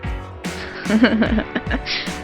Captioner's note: laughing